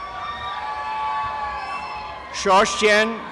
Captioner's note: applause and cheering